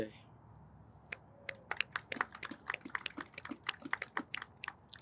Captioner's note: audience applauds